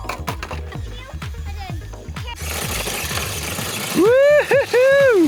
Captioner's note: RC cars clattering; RC car whining